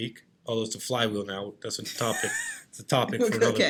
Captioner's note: laughing